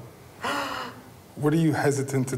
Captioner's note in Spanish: suspiro